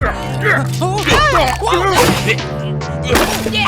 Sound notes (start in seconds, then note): 0.0 grunt; 0.8 whine; 1.8 struggling